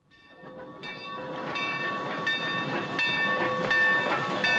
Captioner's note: train bell clanging